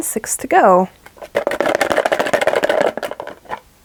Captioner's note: box shaking, rattling